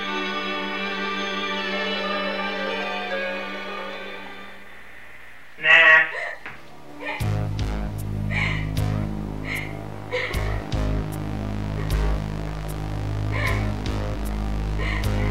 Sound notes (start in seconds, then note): 7.5 tense music; 10.0 Rachel sobbing